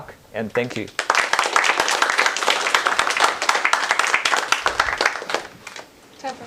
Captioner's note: applause